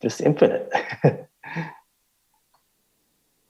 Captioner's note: questioner Laughter